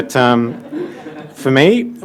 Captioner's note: audience laughing